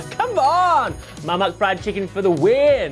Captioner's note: bell dings; gasps